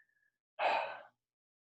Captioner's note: sigh